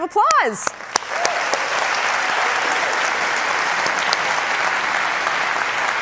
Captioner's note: applause